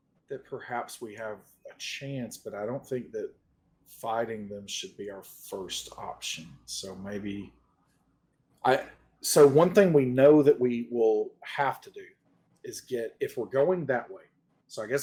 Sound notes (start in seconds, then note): none